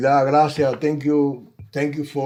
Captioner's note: speaking Spanish